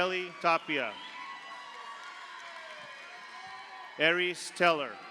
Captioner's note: audience applauds; audience cheers